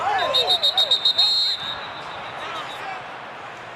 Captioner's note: whistle blows